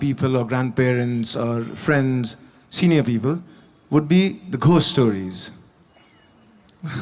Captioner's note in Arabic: يضحك